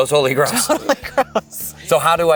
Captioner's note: chuckles